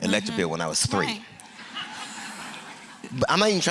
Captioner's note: laughter